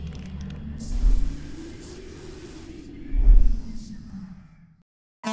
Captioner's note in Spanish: whoshing; whoshing